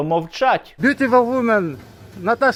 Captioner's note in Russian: говорит по-английски